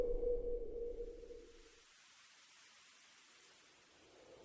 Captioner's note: bushes rustling